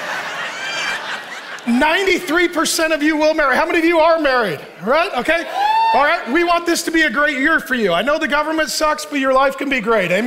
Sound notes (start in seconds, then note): 0.0 congregation laughing; 5.3 congregants cheering